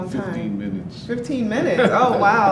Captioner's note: laughs